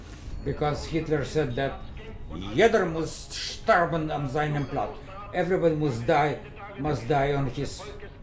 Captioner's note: german speaking